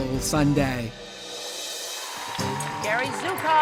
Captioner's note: cheers and applause